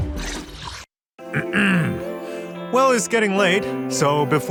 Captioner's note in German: räusper